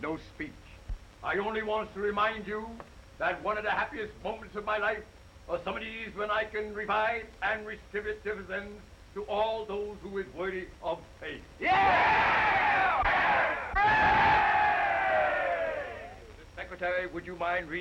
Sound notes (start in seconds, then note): 11.6 crowd cheering